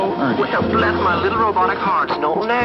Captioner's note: robotic voice